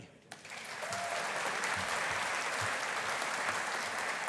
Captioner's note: audience applauding